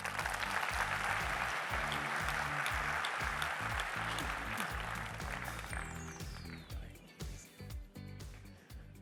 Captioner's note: applause